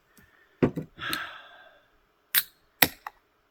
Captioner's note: sigh